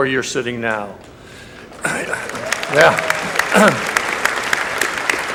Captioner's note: applause